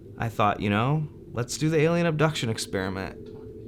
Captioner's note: none